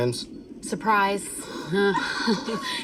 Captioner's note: chuckles